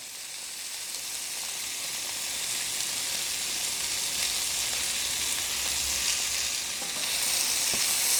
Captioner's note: sizzling